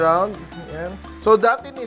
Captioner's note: sizzle